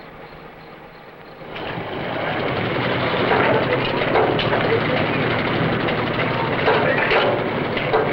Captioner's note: crane Clanking